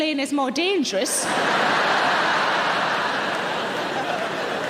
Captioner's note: audience laughing